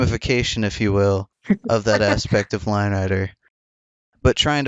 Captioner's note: laughs